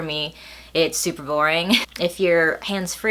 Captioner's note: laughs